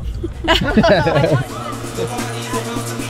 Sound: roup laughing; upbeat music

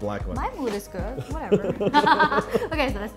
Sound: laughs

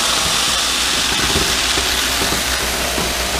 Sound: machine running

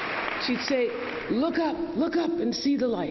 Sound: applause

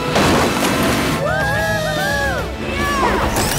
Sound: cheering

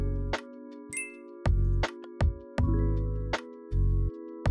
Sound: bell dinging

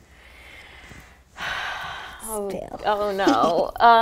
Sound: big sigh

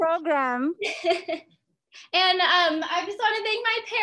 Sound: laughs

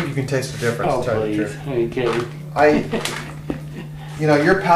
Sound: laughs

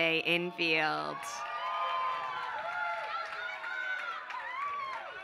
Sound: applause

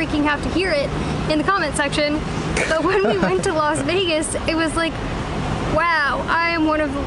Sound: laughter

